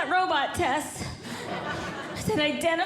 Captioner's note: audience Laughing